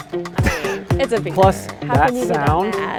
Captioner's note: laughs